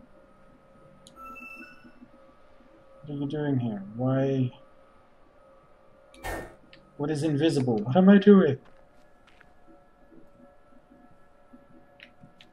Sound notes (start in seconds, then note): none